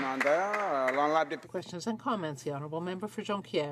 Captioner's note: applause